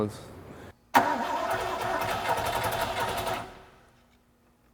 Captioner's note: engine revs